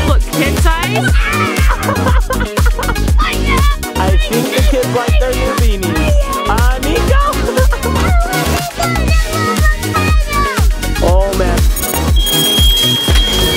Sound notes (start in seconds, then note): 0.9 laughs; 1.6 shouts; 7.7 laughs